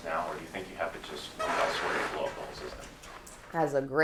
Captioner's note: chair squeaks